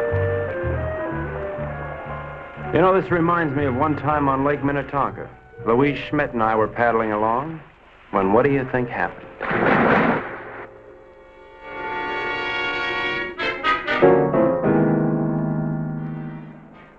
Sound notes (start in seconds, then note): 9.7 water whooshing; 11.5 intense instrumental music